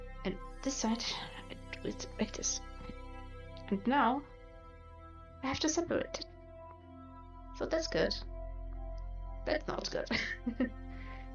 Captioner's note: shy laughing